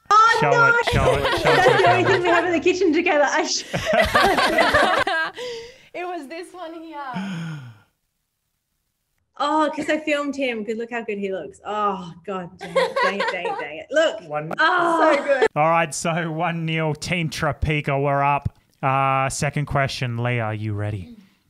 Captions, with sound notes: - Oh no, that's the only thing we have in the kitchen together, I should've known. (all laugh) - It was this one here. - Oh, 'cause I filmed him, 'cause look how good he looks. Oh, god, dang it, dang it, dang it. Look, oh! - All right, so one-nil, Team Tropeaka, we're up. Second question Leah, are you ready?